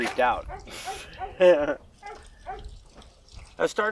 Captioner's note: laughing